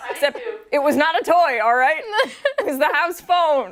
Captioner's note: laughter